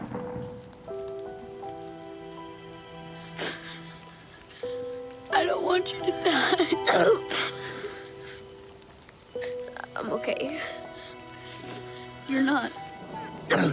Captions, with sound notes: (gentle instrumental music) (crying) - I don't want you to die. (coughing) - I'm okay. - You're not.